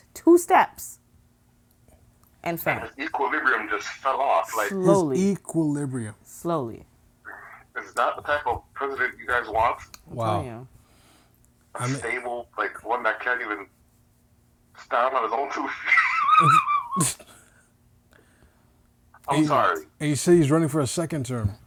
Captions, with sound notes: two steps and fell. - Equilibrium just fell off, like... - Slowly. - His equilibrium. - Slowly. - Is that the type of president you guys want? - Wow. - Yeah. - Unstable, like one that can't even stand on his own two feet-- (laughing) - I'm sorry. - He said he's running for a second term.